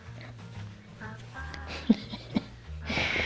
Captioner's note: laughs